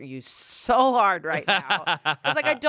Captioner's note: laughs